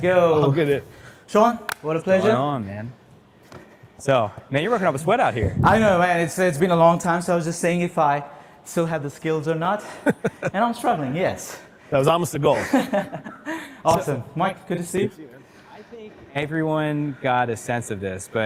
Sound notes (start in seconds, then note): 9.8 laughs; 12.6 laughs